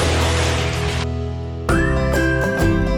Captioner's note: curtain swishing; upbeat music